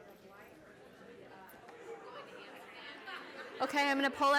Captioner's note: chatter